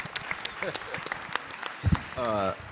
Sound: applauding

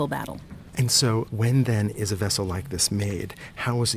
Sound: voiceover

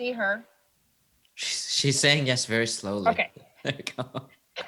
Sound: chuckles

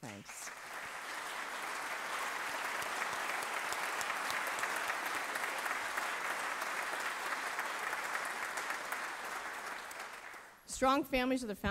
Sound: applause

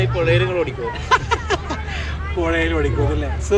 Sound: laughing

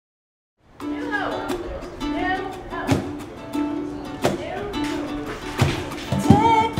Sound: pleasant acoustic music; distant speaking

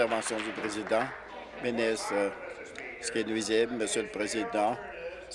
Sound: applause

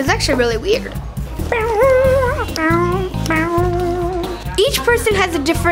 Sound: making guitar noises

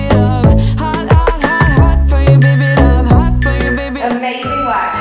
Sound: countdown timer beeping

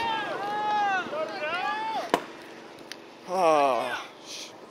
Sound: men shouting

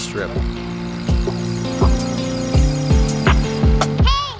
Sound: plane engine revving

